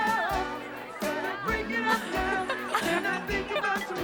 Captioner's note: giggling